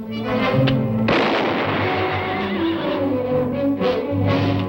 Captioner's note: spanish; gunshot